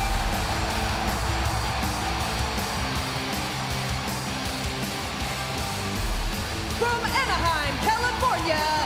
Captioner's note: crowd cheering